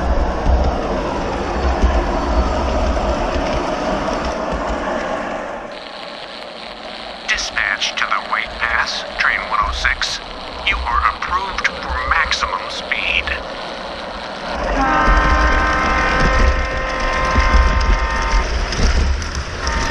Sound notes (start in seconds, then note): 6.5 message on the radio; 14.6 train horn